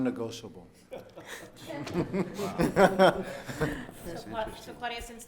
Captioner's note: laughing